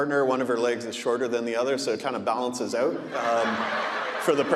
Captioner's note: audience laughing